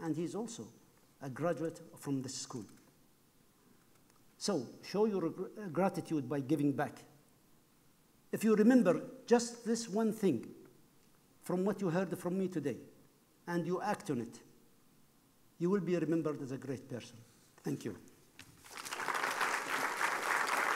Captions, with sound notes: and he's also a graduate from this school. So show your gratitude by giving back. If you remember just this one thing from what you heard from me today, and you act on it, you will be remembered as a great person. Thank you. (applause)